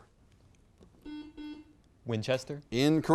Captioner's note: buzzer beeps